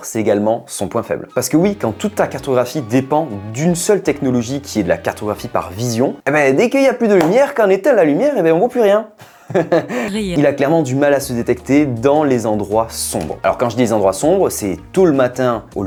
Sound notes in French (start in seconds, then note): 9.2 rires